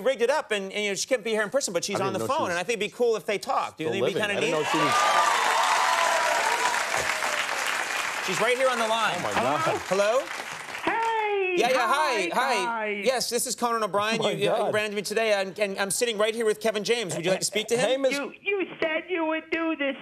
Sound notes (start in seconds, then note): 4.4 audience cheers